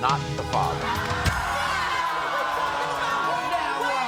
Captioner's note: yelling